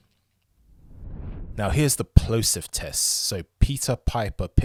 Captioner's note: air whooshing